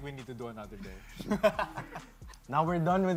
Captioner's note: laughs